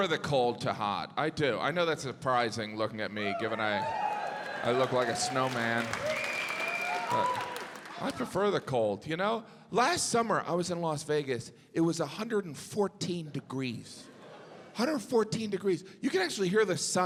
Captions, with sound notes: I prefer the cold to hot. I do. I know that's surprising looking at me, given I look like a snowman. (audience cheering, applauding) But I prefer the cold you know? Last summer I was in Las Vegas. It was 114 degrees. 114 degrees.